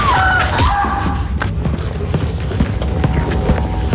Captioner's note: thudding; ominous music